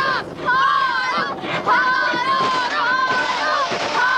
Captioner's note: children chanting